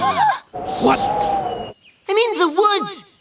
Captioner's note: gasping